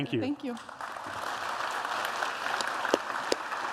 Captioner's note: applause